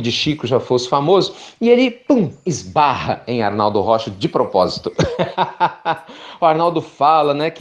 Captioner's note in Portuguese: Risos